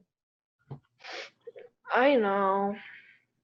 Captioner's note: sniffles